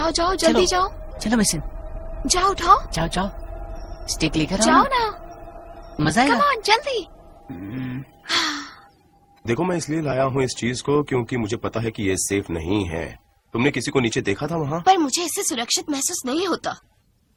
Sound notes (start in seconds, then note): 7.4 sighs